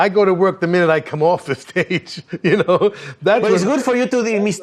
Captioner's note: laughs